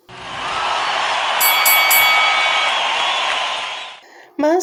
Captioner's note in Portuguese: Som de ringue